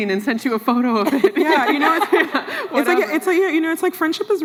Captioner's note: laughs